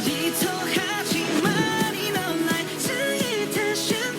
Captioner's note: disoriented steps